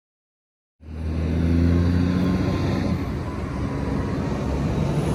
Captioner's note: heavy traffic noises